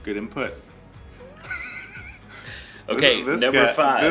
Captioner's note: laugh